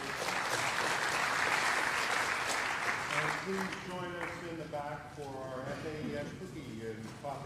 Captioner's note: applause